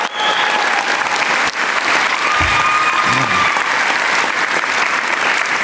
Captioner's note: applause